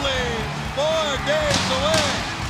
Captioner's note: crowd cheering